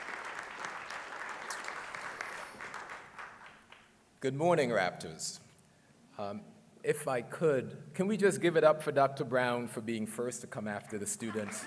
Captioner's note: applause